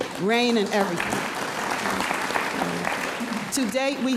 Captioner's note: audience applauds